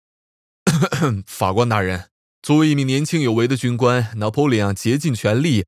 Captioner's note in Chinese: 咳咳